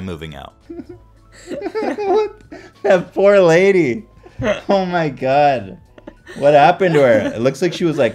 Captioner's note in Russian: Смеются